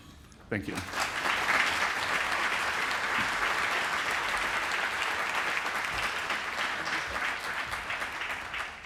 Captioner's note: applause